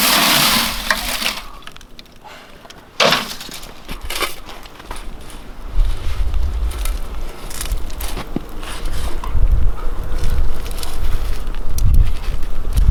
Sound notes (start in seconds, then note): 6.9 wind whistling